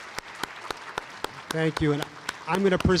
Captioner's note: applause